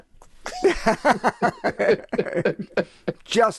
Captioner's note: laughing